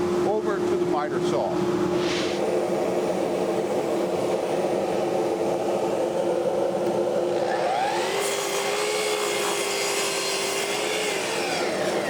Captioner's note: saw whirs